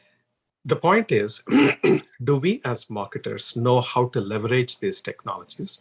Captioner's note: cough